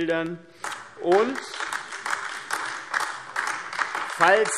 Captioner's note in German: Beifall AfD